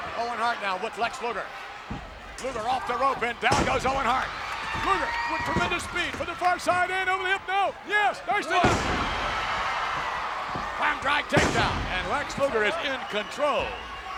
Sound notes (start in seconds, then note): 9.1 audience cheers